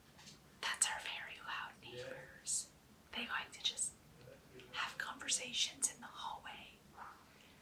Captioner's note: whispered